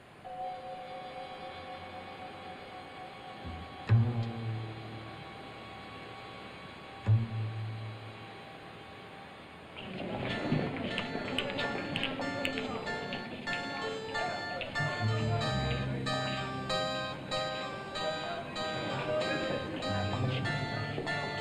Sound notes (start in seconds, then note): 0.1 foreboding music; 9.7 city street sounds; 10.2 foreboding music